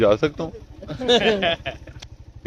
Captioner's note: laughter